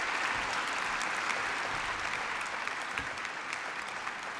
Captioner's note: applause